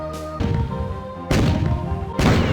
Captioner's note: BOOSHx2; BOOSHx3; BOOSHx4